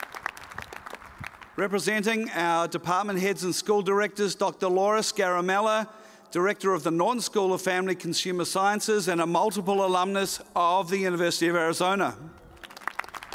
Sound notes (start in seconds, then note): 0.0 cheers and applause